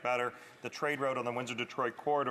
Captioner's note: none